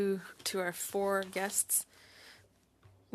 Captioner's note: speaking French